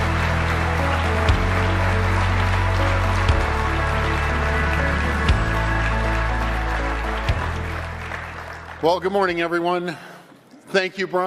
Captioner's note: applause